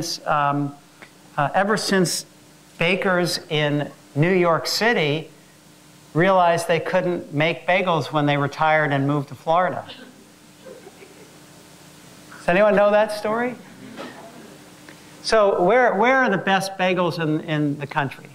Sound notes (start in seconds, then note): 10.6 laugh